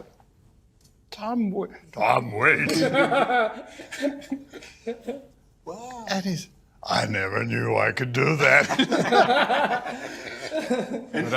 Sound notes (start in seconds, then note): 1.5 imitating gruff voice; 8.2 laughing